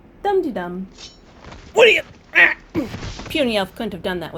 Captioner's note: Pitch struggles in half-orc